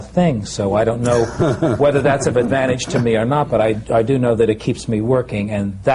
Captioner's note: laughter